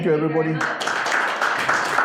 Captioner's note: audience applauding